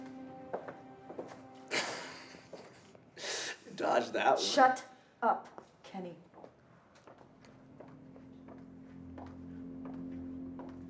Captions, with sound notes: - (laughing) You dodged that one. - Shut up, Kenny. (suspenseful music)